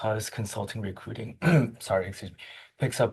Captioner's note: clears throat